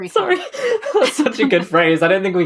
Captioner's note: laughing; laughs